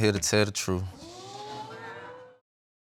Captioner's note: audience gasping